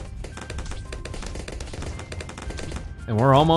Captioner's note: weapons firing